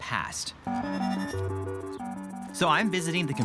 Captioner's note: machinery whirring